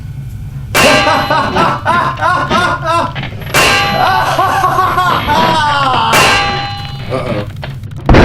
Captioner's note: metal clangs and maniacal laughter; floor breaks, then howling wind